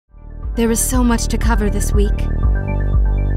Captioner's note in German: Voiceover; sanfte elektronische Musik